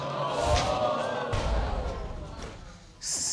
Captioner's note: audience exclaiming